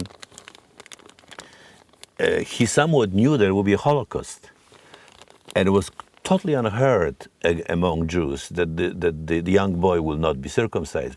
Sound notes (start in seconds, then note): none